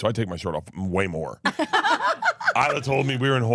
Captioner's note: laugh